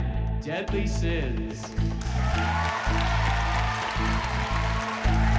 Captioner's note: cheering, applause